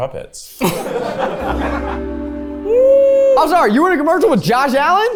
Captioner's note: everyone laughs